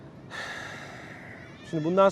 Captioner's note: sighs